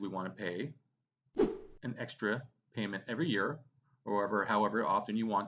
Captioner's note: whooshing